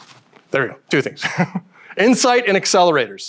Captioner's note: chuckles